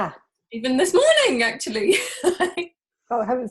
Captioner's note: laughs